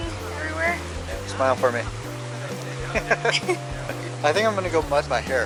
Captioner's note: laughing